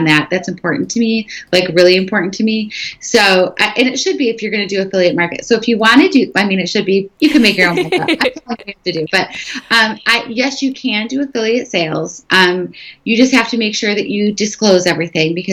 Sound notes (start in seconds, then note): 7.2 laughing